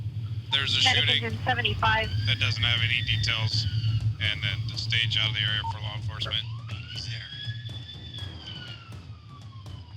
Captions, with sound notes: There's a shooting that doesn't have any details. And then to stage out of the area for law enforcement. [siren]